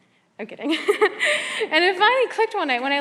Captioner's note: laughs